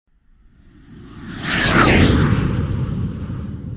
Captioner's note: jet streaming